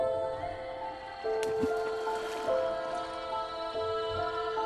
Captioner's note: water splashing